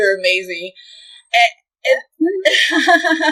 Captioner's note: sussurrando